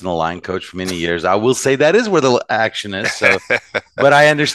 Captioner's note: laughing